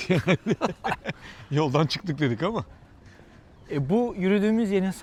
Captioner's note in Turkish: kahkaha